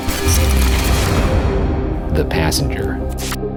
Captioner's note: electronic whooshing